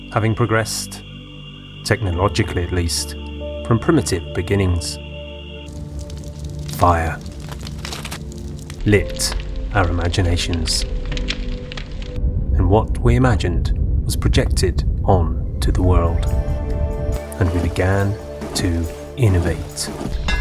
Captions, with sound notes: having progressed, technologically at least, from primitive beginnings. (fire crackling) Fire lit our imaginations. (fire crackling) And what we imagined was projected onto the world. And we began to innovate